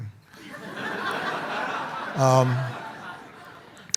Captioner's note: audience laughs